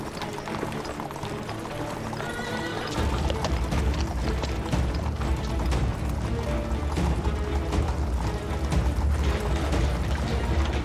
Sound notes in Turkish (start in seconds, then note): 1.6 At arabası sesi